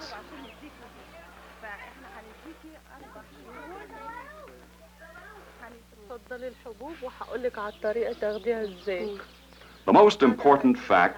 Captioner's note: workers chatting during household distribution